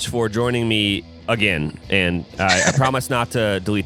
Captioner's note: laughs